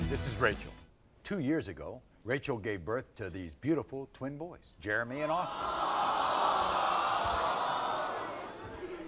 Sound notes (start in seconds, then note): 5.3 audience groans